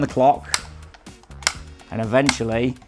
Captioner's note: clock clicking